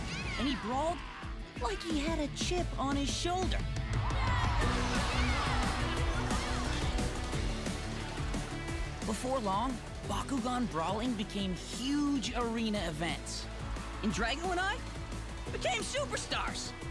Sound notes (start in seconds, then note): 3.8 cheering